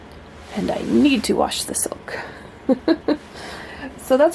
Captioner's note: laughs